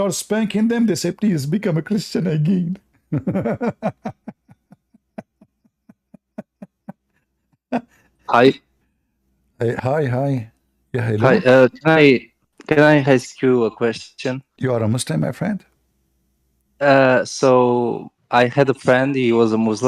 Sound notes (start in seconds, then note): 3.1 Ketawa